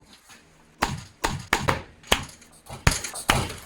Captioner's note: clanking